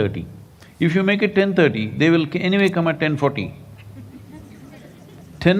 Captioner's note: laughter